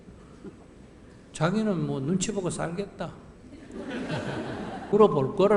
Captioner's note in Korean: 청중 웃음